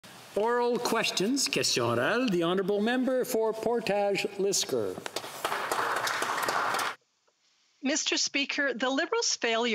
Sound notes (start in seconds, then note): 0.0 applause; 0.0 some Applause